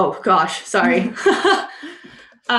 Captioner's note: laughs